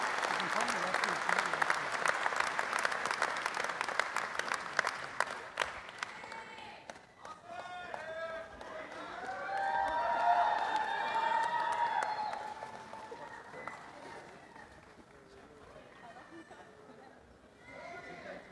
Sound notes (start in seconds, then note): 0.1 applause; 7.2 cheering; 12.5 background chatter